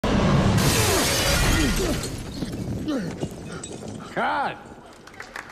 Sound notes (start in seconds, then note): 0.6 glass shattering